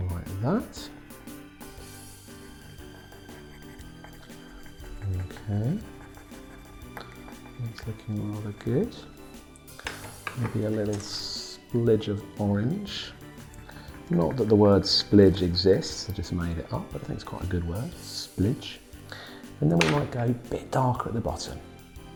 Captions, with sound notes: and a little like that, okay. (pencil scratching) That's looking rather good. (pencil tumbling) Maybe a little splidge of orange, not that the word splidge exists, I just made it up, but I think it's quite a good word, splidge. And then we might go a bit dark at the bottom.